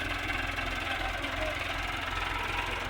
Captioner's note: tractor engine